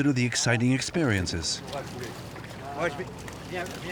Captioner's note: crew members speaking French